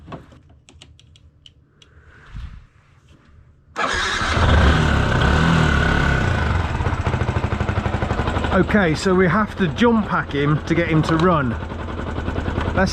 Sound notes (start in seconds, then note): 3.7 engine starts; 3.8 engine running